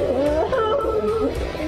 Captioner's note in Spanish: lloran